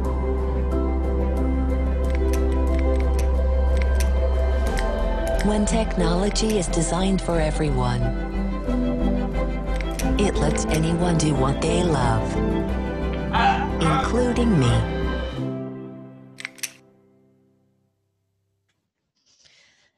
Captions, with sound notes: (enlightened music) (clicking) When technology is designed for everyone, it lets anyone do what they love. (laughs) Including me. (clicking)